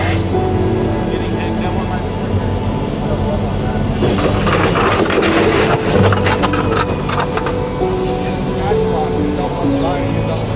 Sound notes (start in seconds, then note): 4.6 vehicle scraping; 7.2 flatbed screeching